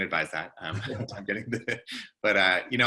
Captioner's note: chuckles